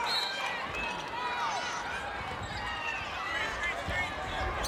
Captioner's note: whistle blows